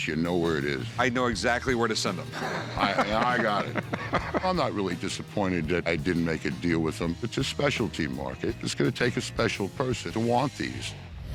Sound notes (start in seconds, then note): 2.2 laughs